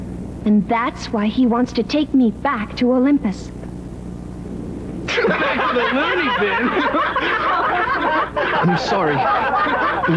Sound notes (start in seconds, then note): 5.1 laughter